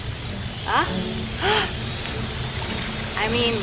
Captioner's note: gasps